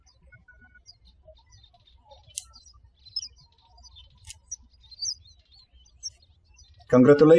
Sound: birds chirping

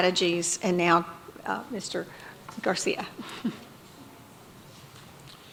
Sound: chuckles

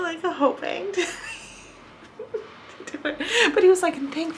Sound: laughs

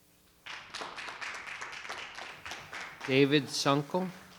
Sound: audience applauding

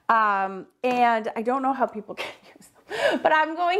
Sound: laughs

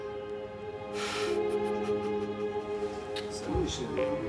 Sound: sobbing

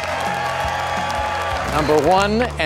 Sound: applause

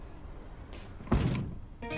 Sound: door closes

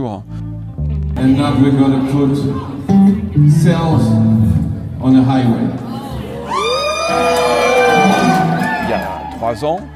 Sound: applause

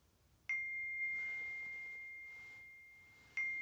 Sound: phone dings

